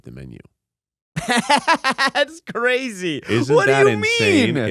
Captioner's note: laughs